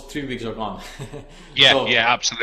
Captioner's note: laughs